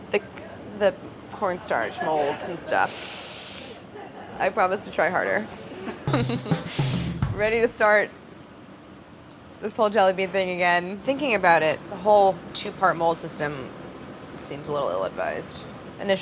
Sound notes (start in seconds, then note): 6.0 laughs